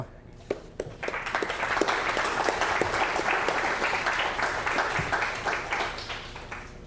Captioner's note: applause